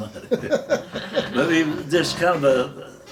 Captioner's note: everyone laughing